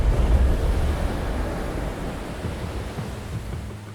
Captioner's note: waves crashing